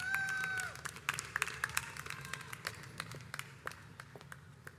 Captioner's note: audience cheers